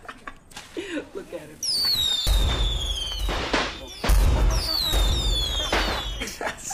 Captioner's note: laughs; firecrackers whistling and booming; laughter